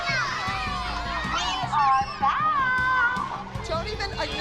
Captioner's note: singsong